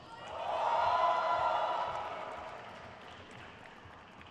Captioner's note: crowd cheers